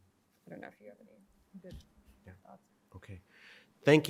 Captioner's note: faintly speaking